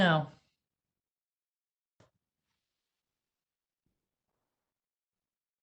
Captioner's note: silence